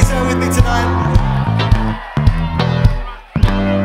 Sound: audience cheers

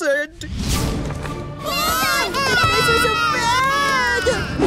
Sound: screaming

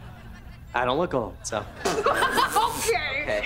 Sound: laughing

